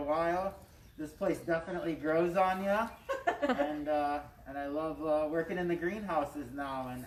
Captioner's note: laughs